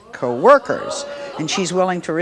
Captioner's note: audience gasps